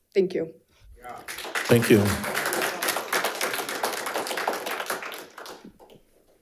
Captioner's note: audience applauding